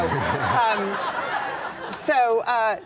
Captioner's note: audience laughing